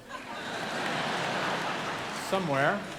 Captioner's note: audience laughing